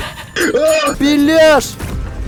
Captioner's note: gustavo fring's scream